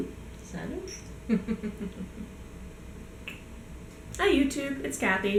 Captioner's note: giggles